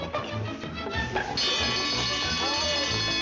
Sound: fire alarm sounds

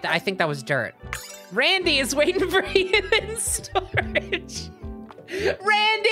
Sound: cracking up

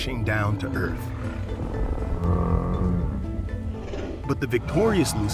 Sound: deep, anguished bellow

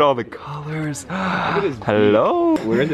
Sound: gasps

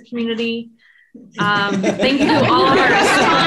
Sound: people laugh

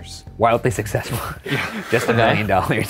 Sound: laughs

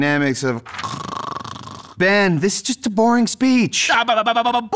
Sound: snores

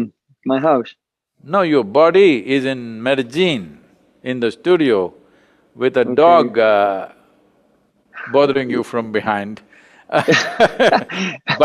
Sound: both laugh

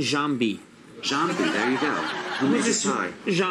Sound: audience laughs

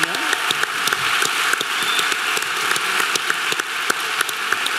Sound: audience clapping

